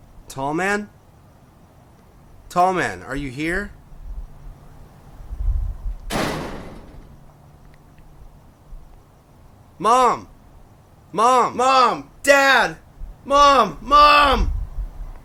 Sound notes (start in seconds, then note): 6.1 crashing sound